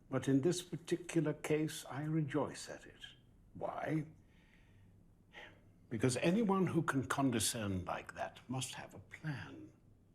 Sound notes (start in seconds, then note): none